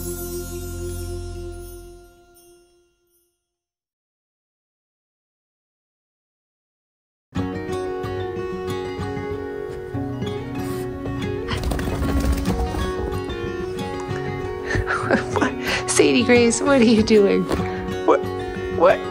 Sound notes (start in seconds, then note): 10.5 sniffing